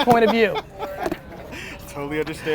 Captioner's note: laughter